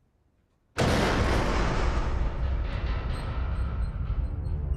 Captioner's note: roaring, rumbling